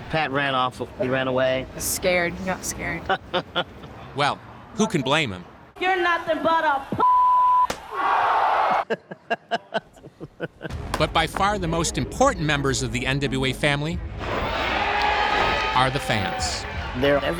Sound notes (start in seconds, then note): 3.0 laughs; 7.7 crowd exclaims; 8.8 laughing; 14.2 cheering